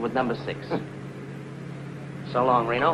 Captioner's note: Reno chuckles